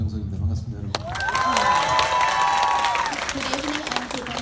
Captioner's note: speaking in foreign language; audience cheering